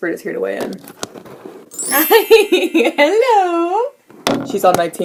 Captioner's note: magical sound effect